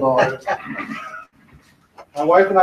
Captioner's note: laughing